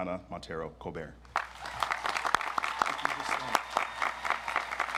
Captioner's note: audience applauds